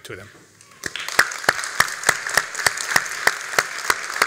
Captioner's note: all applauding